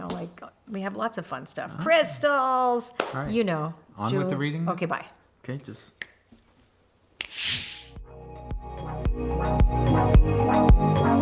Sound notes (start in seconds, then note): 6.0 snapping; 7.5 snapping; 8.0 relaxing music